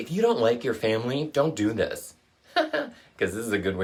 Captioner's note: laughs